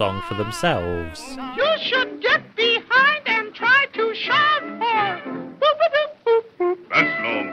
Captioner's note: high falsetto